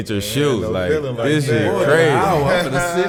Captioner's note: overlapping chatter